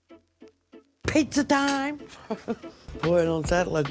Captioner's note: upbeat music; laughs